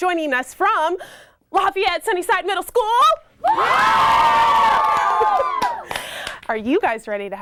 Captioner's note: kids yell and scream